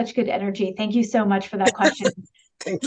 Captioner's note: laughs